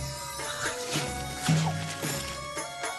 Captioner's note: whip!